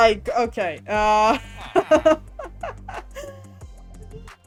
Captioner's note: laughs